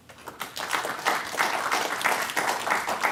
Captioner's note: applause